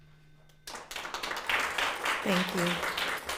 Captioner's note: audience applauding